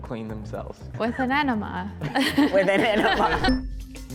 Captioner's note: laughs